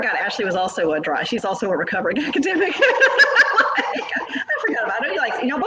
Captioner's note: laughs